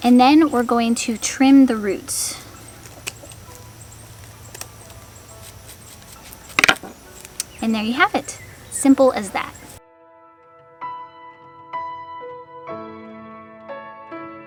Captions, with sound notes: And then we're going to trim the roots. (scissors click) And there you have it. Simple as that. (peaceful music)